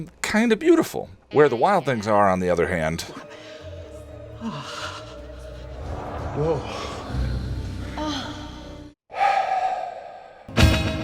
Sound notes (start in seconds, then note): 4.3 orgasm; 7.1 spooky orgasming; 9.0 sigh